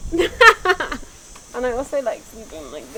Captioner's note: chuckling